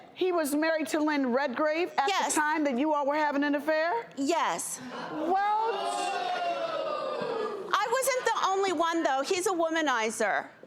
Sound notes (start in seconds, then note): 4.8 audience gasps